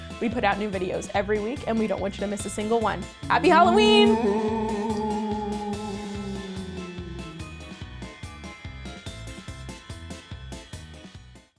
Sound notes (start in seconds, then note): 3.3 ghoul wailing; 7.2 spooky music